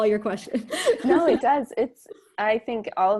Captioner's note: laughs